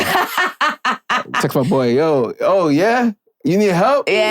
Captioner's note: laughing